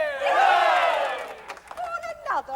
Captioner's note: chorus cheers